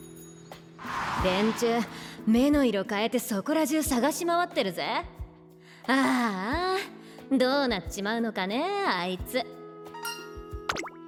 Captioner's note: sigh